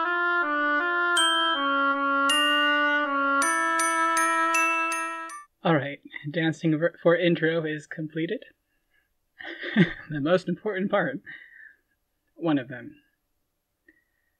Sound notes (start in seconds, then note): 8.9 laughing